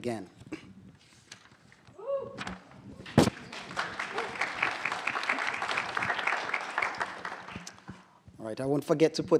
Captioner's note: applause